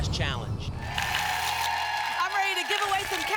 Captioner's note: applause